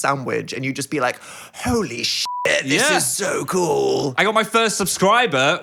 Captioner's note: beep